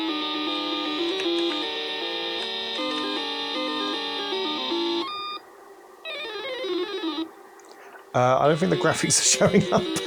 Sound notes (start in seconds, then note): 8.4 keyboard clacking